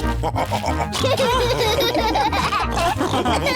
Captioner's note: laugh and snorts; all laughing